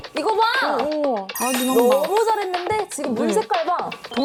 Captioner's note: polished result sound effect